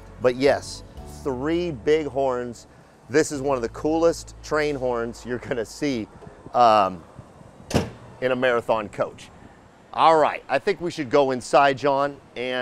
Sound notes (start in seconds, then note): 7.7 panel clacks